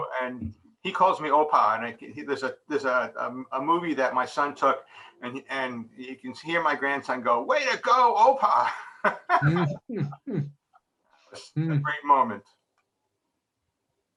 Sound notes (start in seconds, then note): 8.7 laughs